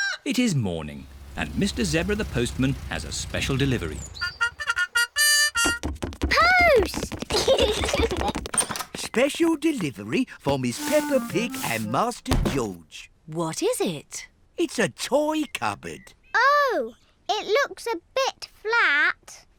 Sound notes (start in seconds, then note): 7.2 both giggle